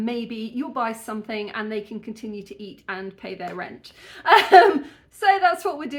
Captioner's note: laughing